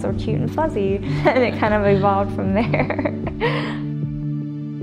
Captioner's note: laughter